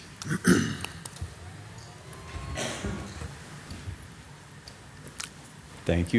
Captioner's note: whirring; clears throat